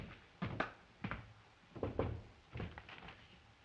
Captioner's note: knock on door